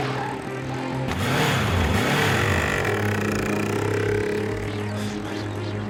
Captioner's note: skateboard rolling; motorcycle revving; Blind breathes heavily